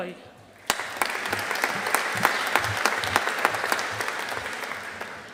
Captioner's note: audience applauding